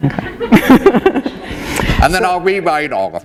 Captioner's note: laughter